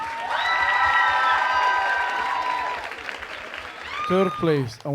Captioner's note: audience cheering